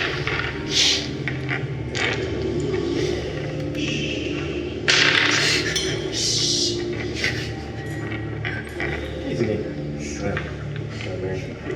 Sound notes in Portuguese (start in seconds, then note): 7.0 risada quieta